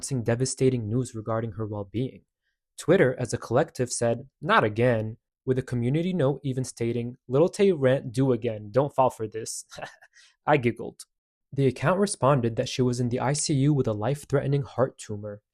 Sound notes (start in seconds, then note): 9.7 I giggled